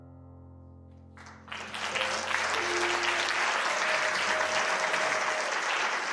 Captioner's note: applause